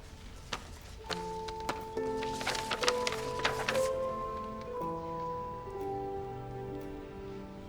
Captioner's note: paper rustling; somber music